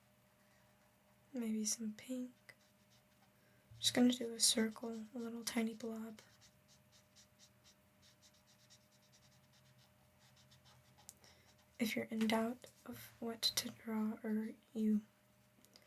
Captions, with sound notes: maybe some pink I'm just going to do a circle, a little tiny blob (Silence) if you're in doubt of what to draw or you I